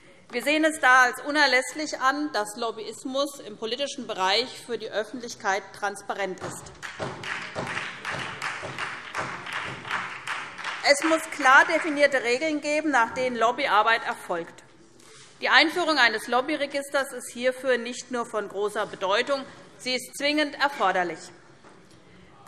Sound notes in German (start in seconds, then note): 6.7 Beifall SPD